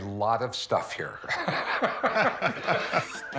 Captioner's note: both laugh